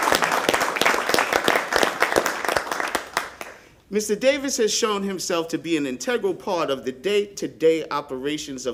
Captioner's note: applause